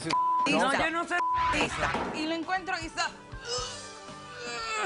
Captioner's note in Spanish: Bip